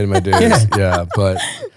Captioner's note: laughing